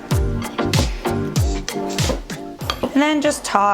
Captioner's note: clattering